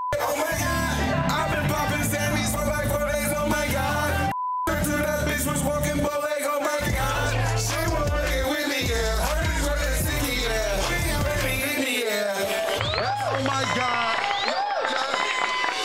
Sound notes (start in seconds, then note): 0.0 beep; 4.3 beep; 11.8 attendees cheering